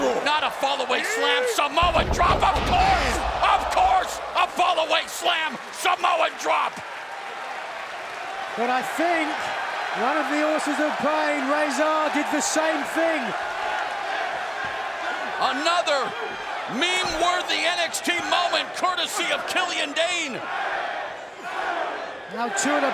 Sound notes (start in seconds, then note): 7.5 fans cheering; 13.9 fans chanting; 20.2 fans chanting